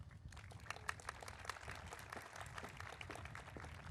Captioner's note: audience applauding